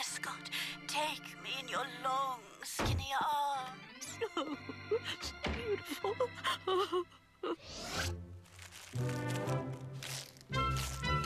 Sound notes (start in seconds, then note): 5.6 crying